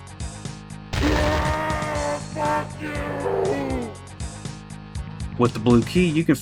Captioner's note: screams